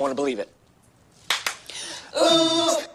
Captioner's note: claps hands